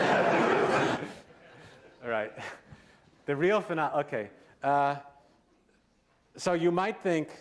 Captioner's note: laughter